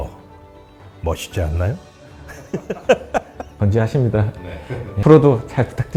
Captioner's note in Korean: 웃음